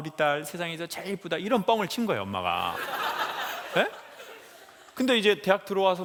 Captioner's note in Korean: 웃음